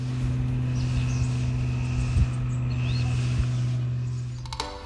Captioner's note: propeller plane engine